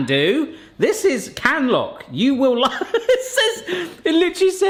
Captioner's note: laughing